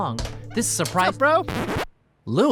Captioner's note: record scratches